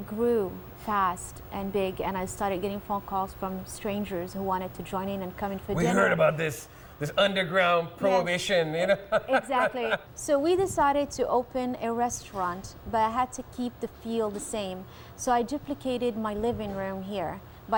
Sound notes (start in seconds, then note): 9.6 laughs